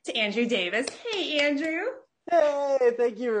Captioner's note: clapping hands